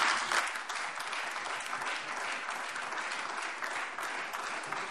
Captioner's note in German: Beifall Freie Demokraten und AfD